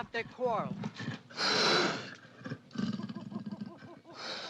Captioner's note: panther hisses